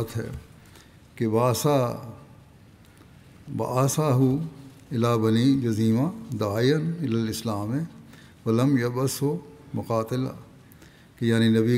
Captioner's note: Arabic